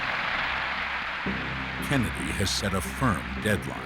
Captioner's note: applause